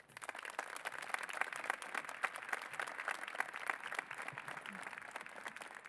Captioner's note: applause